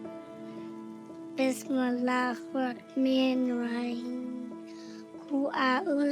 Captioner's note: speaking in Arabic